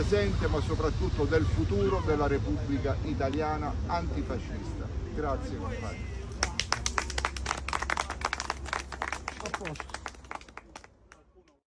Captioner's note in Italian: Applauso